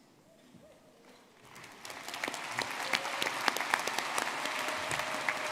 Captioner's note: audience clapping